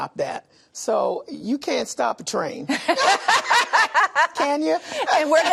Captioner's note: laughter